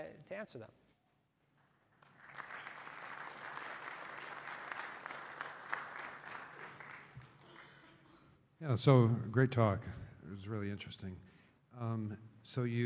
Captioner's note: applause